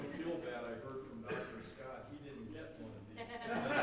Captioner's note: laughter